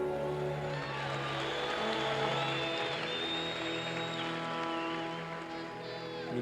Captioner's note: cheers and applause